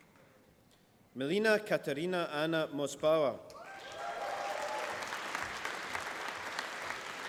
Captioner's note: applause